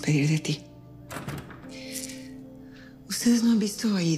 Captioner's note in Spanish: Sonido al cerrar la puerta